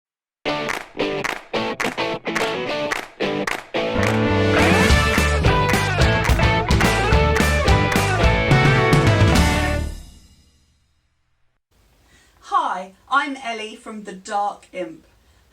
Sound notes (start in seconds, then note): 0.6 claps